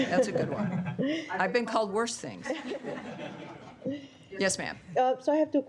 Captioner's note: laughter